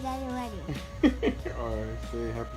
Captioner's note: laughing